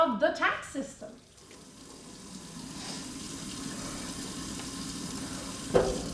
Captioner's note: water running